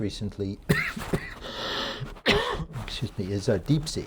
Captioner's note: lecturer coughing